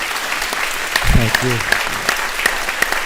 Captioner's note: all applaud